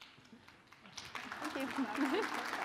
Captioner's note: audience applauding